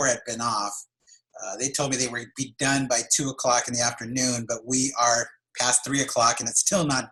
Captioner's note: laughs